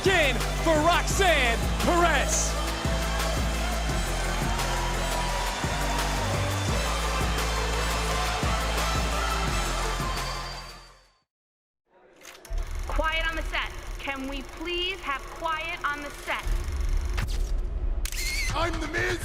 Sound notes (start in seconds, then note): 4.4 crowd cheers